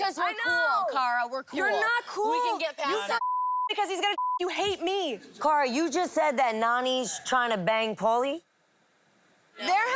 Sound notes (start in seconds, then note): 3.1 beep